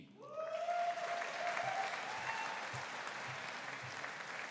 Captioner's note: audience cheering